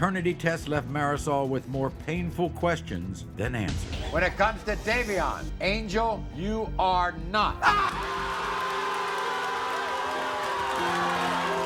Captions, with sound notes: tests left Marisol with more painful questions than answers. When it comes to Davian, Angel you are not. (cheering)